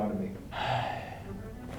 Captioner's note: sigh